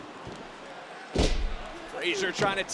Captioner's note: Frazer thuds